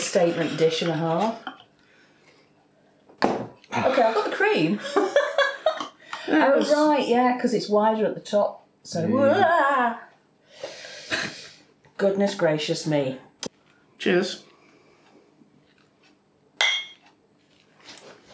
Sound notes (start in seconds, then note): 16.6 clink